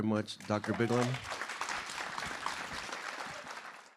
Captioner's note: applause